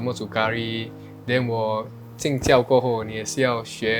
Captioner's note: in Mandarin